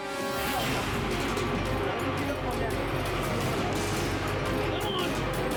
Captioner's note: dramatic music; group chattering; dramatic music continues